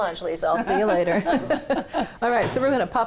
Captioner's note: laughs